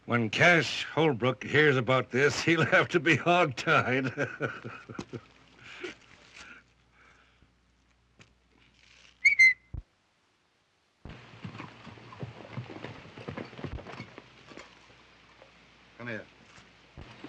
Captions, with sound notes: When Cash Holbrook hears about this, he'll have to be hog-tied. [laughs] [whistles] Come here.